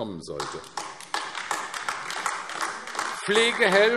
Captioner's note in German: Beifall AfD